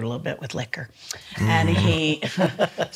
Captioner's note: laughs